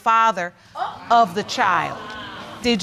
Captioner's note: audience exclaiming